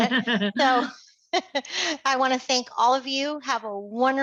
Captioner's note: laughter